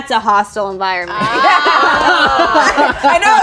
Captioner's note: group laughs